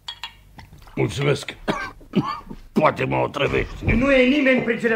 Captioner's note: coughs